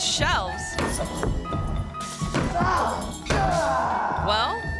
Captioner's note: board thuds; martial artist grunts